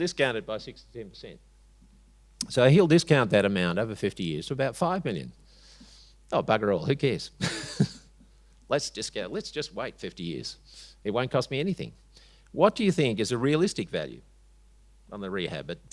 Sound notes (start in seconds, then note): 7.4 chuckles